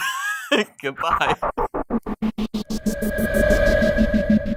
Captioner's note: laughing; whooshing